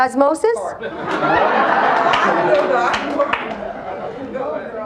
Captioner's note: audience laughs